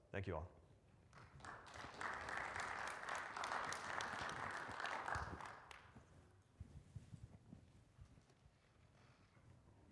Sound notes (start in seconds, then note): 1.2 audience clapping